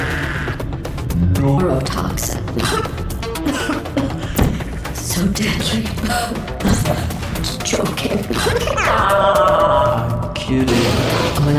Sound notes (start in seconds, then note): 2.4 coughing; 8.6 evil laughter